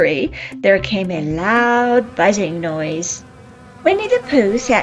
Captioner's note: bees buzzing